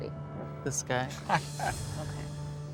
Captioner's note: laughs